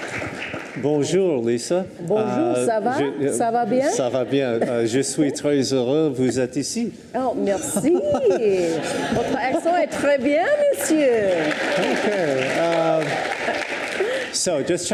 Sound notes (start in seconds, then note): 3.5 speaking in foreign language; 9.1 audience laughs; 12.0 audience applauds